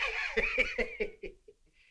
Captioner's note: chuckles